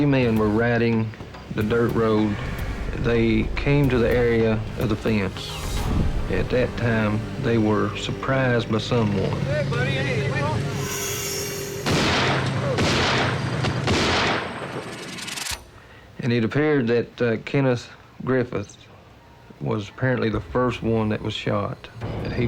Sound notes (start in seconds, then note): 10.8 chatter; 11.8 gunshots